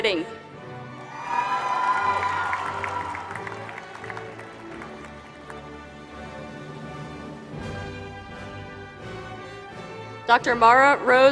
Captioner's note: applause